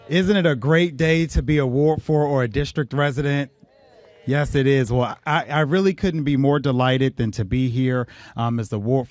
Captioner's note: applause